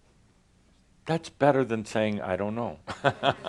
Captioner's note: Adamus chuckles